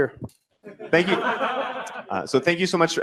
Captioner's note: laughter